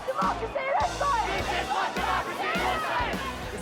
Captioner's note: crowd